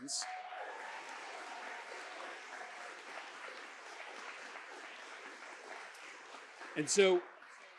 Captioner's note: applause